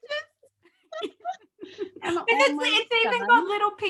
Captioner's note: both laugh